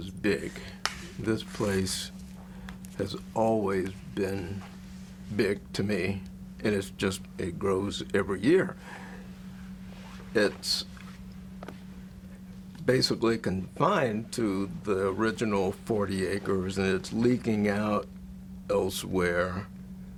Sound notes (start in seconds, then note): none